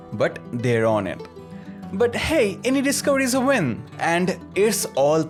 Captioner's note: soundbite: Deep Breath